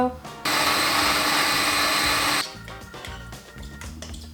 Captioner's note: blender whirs